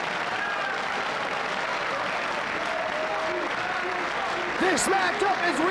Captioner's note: audience applauding